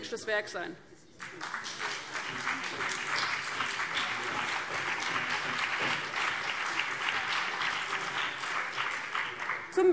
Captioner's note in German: Vereinzelter Beifall CDU und BÜNDNIS 90/DIE GRÜNEN